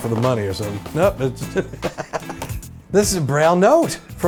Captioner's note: laughs